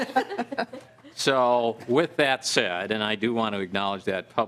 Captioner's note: laughing